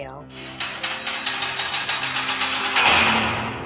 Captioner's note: door closes